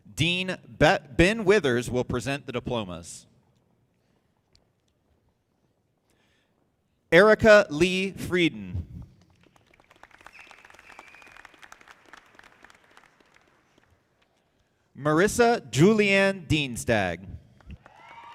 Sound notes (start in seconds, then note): 9.2 audience clapping; 17.7 audience applauding